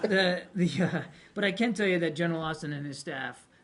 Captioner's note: laughter